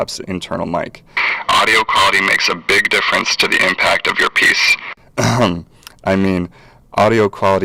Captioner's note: ahem